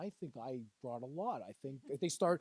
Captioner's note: laughing